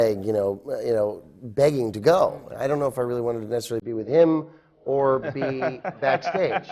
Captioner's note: laughs